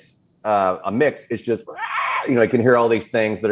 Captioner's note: Titan sound